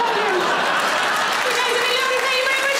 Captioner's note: audience laughing